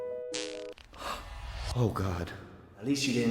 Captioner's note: soft farting noise; gasping